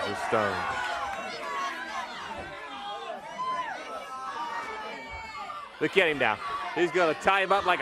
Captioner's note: crowd chatter